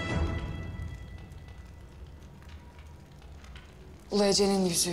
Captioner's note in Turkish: Ateş Çıtırtısı Sesleri